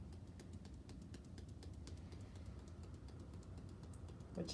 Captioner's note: hands tapping